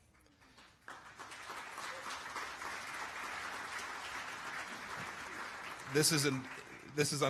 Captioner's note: applause